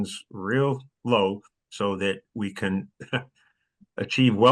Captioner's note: laugh